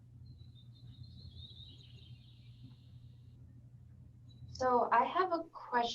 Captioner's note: none